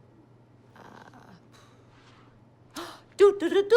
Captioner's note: sighs